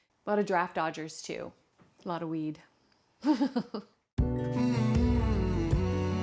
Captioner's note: laughing